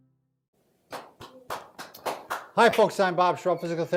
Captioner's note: both applaud